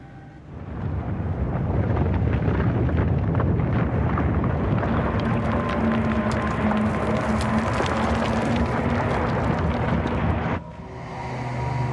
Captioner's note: collapse and fire; ominous Music